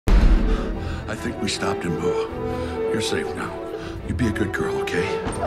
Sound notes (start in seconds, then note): 0.4 catches breath